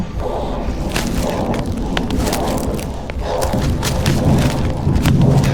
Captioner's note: dramatic music continues; branches cracking